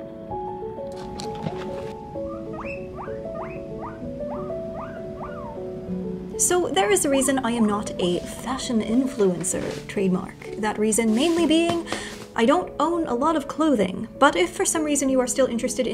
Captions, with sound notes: (guinea pig squeaking) - So there is a reason I am not a Fashion Influencer, trademark. That reason mainly being... I don't own a lot of clothing. But if for some reason you are still interested